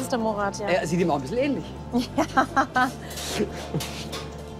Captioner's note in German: lacht